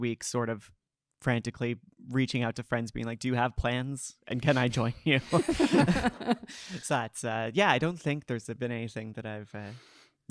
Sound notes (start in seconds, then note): 5.3 panel laughing